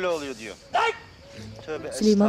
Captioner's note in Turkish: Bağırma sesi